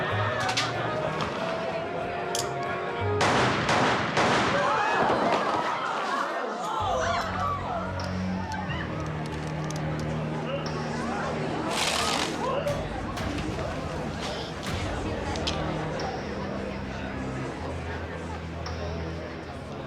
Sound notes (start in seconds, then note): 0.5 lights click; 3.2 gun firing; 4.9 people gasping; 8.2 ominous music; 11.9 gun rattles